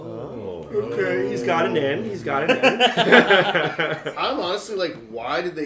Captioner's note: laughter